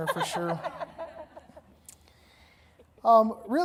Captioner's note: audience laughing